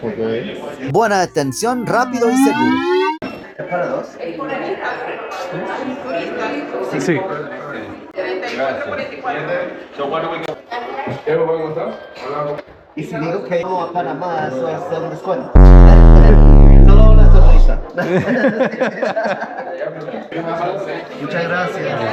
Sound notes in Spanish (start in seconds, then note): 18.0 risas